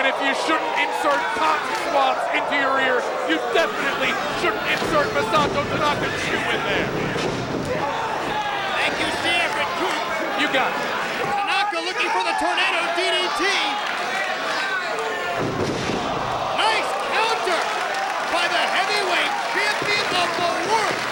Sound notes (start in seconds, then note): 15.2 bodies slamming; 15.5 crowd exclaiming